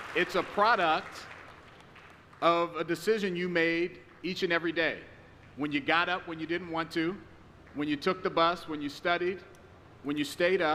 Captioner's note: applause